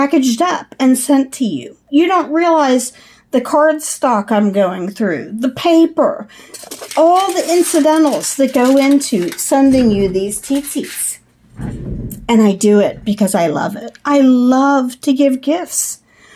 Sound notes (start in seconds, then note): 6.4 foil noises; 10.5 foil and chair rolling noises; 11.5 chair rolling